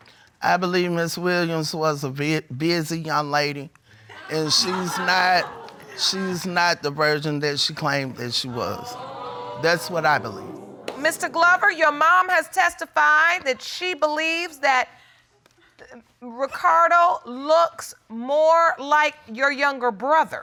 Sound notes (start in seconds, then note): 4.1 laughter